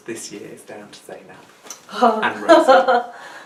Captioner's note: laughs